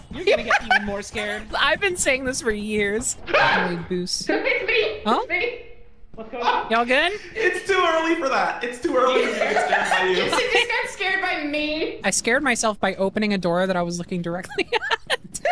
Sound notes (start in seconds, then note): 3.2 screams; 9.0 laughs; 14.4 laughs